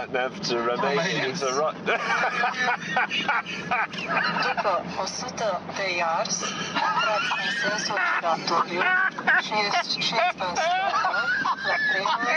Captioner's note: laughter